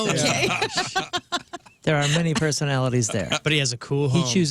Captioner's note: laughing